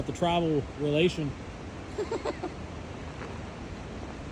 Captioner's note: laughs